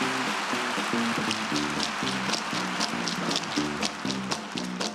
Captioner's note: cheering and applause; rhythmic tapping